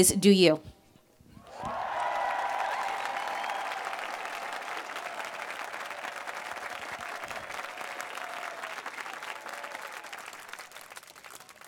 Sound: applause

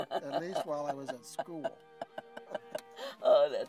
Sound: chuckles

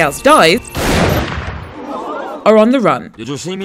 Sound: gunshot

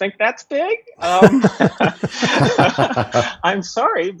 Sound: laughter

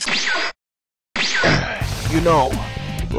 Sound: Gohan Grunts

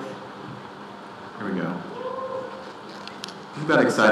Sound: participant shouts

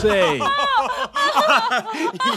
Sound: laughing

